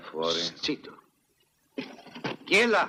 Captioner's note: clattering